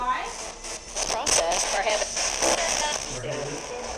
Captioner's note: spirit box voice